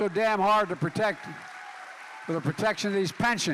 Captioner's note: applause